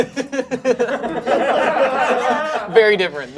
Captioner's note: laughing; group laughing